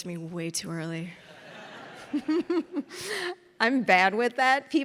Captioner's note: audience and interviewer laughing